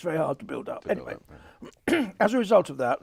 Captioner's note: clears throat